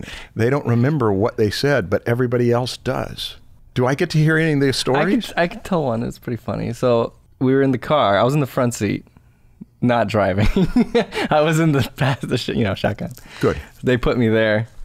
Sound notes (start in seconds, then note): 10.4 chuckles